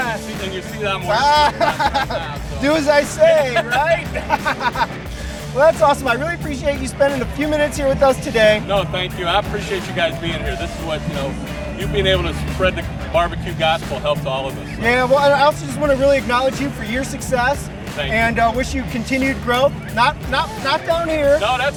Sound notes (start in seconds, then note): 4.7 laughs